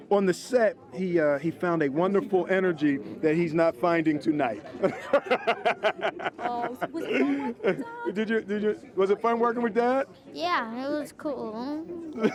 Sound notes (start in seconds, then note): 8.4 laughs